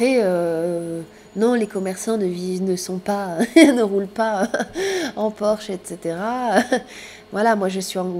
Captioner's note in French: rires